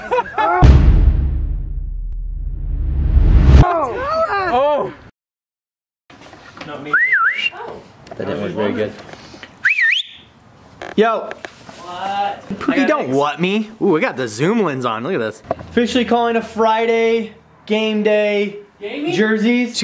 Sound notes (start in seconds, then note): 0.0 laughing; 6.8 whistling; 9.6 whistling